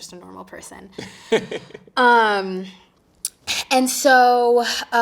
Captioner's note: interviewer chuckling